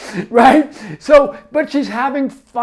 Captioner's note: laughs